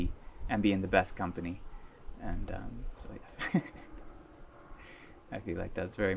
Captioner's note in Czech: smích